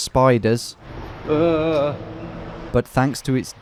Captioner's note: groaning